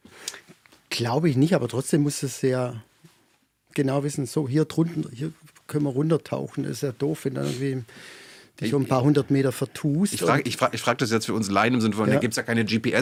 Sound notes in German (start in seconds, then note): 8.1 schnauben